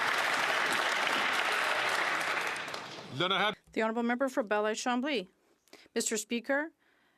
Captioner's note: some Applause